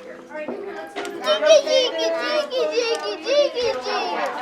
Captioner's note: babbling